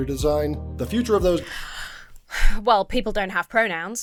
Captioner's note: sighs